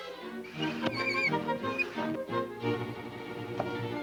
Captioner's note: roller squeaking